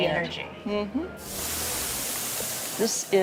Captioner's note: sizzling